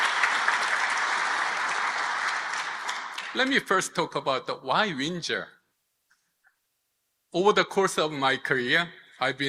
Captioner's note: applause